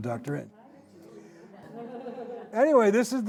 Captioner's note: indistinct chatter, laughter